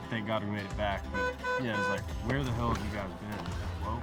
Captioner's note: horn honking